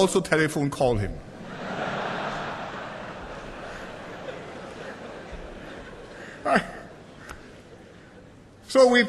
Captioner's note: laughter